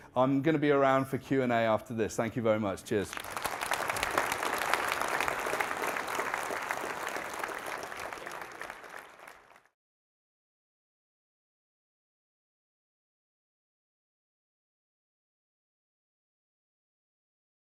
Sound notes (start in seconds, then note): 3.1 audience applauding